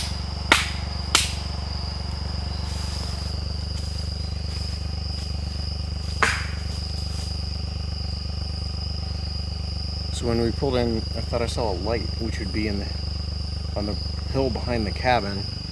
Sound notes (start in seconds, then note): 0.0 clapping; 2.7 engine rumbling continues